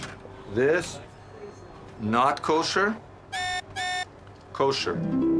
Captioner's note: high pitched beeping; harp music